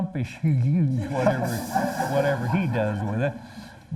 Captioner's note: laughter